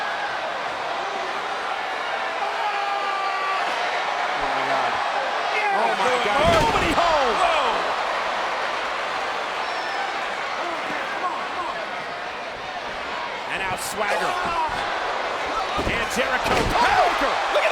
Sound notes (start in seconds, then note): 0.1 crowd vocalizing; 2.7 yelling; 8.3 crowd vocalizing